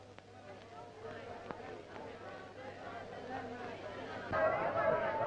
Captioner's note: townspeople clamoring